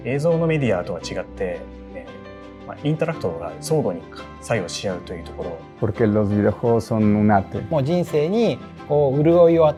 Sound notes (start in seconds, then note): 5.4 speaking spanish; 7.6 non-english speech